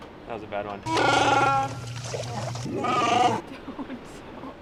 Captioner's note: imitates Chewbacca roar; Chewbacca roars; laughing